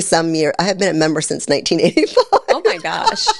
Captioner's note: laughs